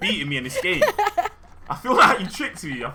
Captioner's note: laughs